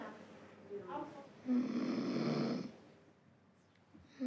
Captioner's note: snores